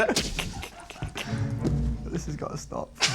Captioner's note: laughing